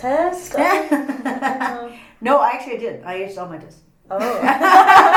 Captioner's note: laughs